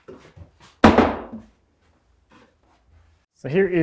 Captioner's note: wood thuds